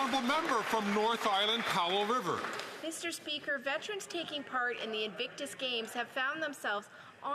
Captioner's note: some Applause